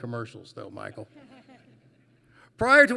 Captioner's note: laughter